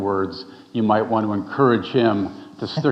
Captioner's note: chuckling